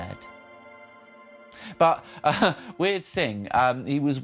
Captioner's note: laughs